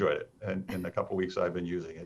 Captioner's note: chuckles